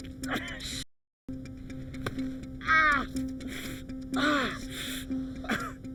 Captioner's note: Jim groaning; groaning